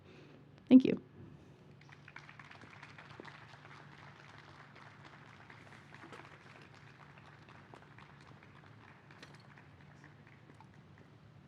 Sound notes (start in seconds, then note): 1.7 applause